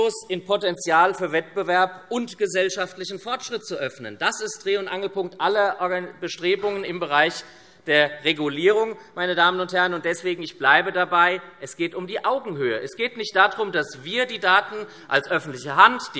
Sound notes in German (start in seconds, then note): none